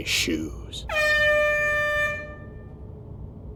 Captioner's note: air horn!